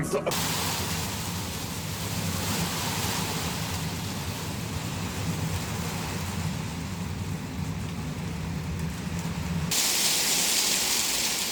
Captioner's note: sound of loud hail throughout